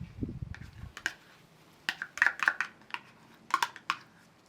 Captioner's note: spoon scraping